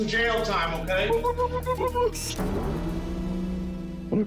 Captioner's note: hooting